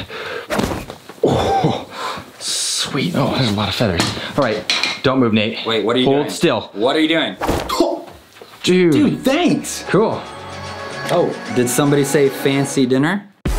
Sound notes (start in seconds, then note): 7.7 whooshing